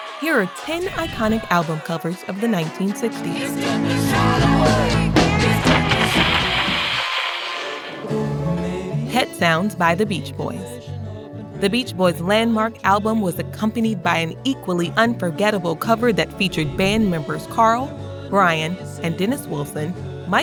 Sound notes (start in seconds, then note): 6.8 mellow music plays; 6.8 radio crackles